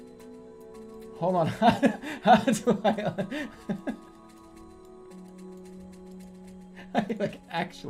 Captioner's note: giggling